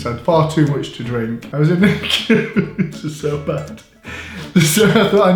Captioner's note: laughing